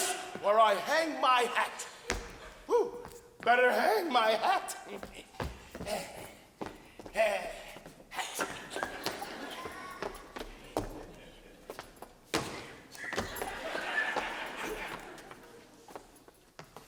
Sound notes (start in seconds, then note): 8.2 audience laughs